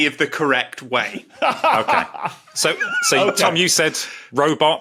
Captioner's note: laughs